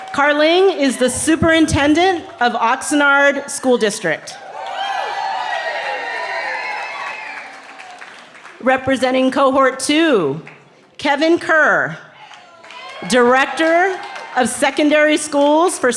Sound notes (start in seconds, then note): 4.3 cheering